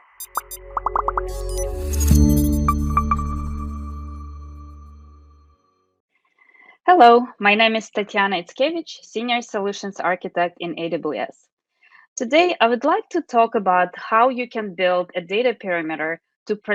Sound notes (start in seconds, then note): 0.0 graphics popping; 2.3 logo chiming